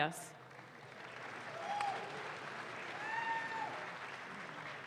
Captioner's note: audience claps